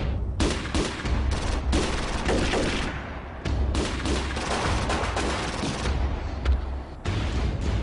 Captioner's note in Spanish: Disparos